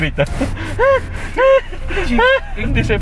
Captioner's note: imitating car running out of breath